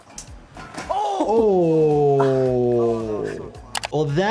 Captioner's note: metal clanging against bone